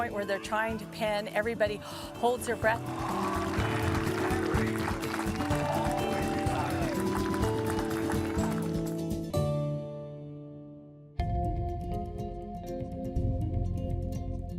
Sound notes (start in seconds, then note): 2.7 audience applauds; 11.3 instrumental music